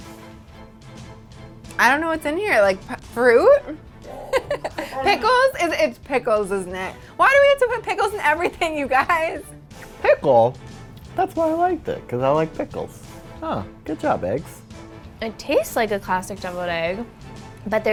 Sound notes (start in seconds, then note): 4.0 laughing